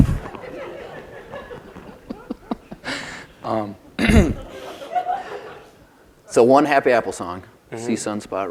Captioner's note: laughs; laughter